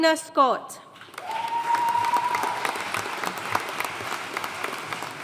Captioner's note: audience cheering and applauding